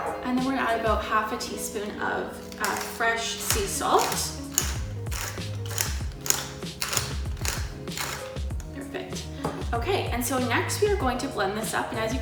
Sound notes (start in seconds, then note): 4.1 cranking of salt grinder mill